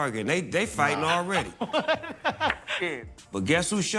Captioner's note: laughs